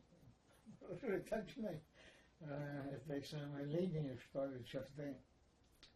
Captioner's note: laughing